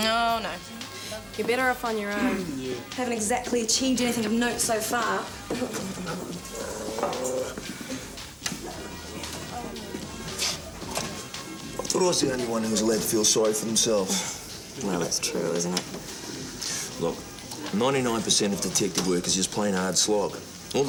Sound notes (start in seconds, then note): 5.9 Jodie grunting softly; 6.2 dog growls